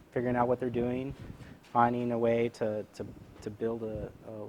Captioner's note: none